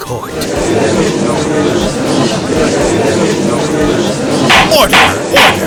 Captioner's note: gallery chattering